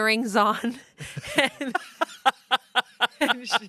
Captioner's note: everyone laughs